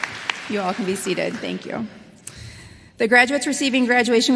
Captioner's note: applause